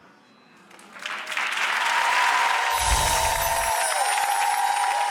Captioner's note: audience applauds and cheers